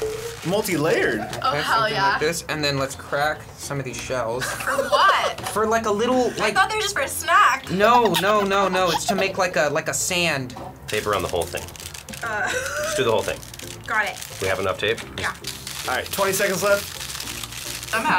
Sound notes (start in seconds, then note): 4.4 laughing